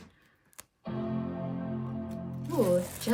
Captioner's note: Apple's starting up sound